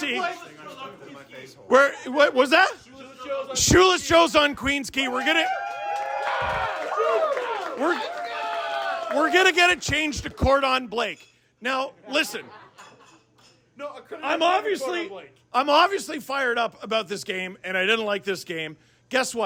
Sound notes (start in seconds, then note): 5.4 applause